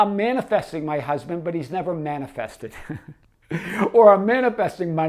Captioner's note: laughing